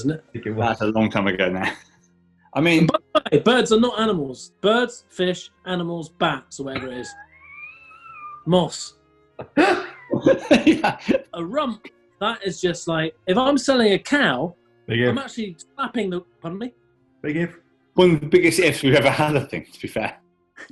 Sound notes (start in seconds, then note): 6.6 sniggering; 9.5 laughter